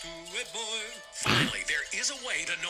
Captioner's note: snorts